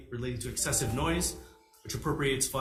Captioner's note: computer notification sounds